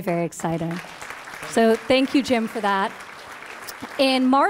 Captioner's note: applause